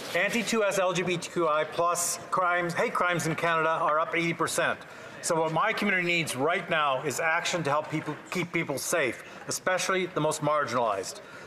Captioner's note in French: voix de l'interprète